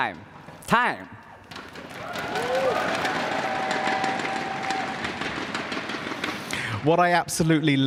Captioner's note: laughter and cheering